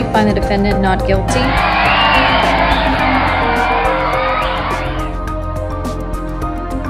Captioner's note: cheers and applause